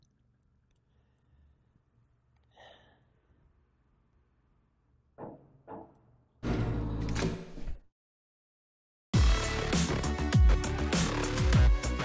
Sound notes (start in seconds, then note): 5.2 door knocking; 5.6 door clicks; 9.2 upbeat music